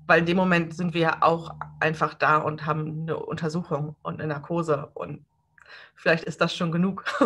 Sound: laughs

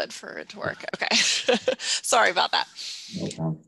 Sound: laughs

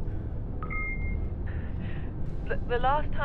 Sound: beep

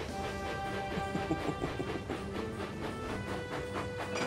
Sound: oliver chuckles

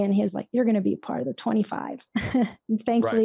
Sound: chuckles

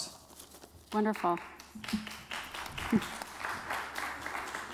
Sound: applause

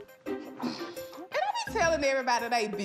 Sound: grunts

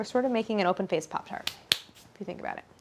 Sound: hands clasping

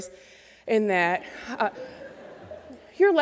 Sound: laughter

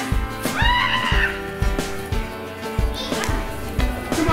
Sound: yelling

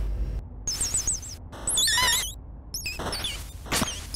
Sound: birds chirping

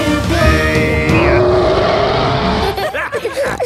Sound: roaring; laughter; snorting

